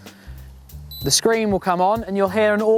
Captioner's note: beep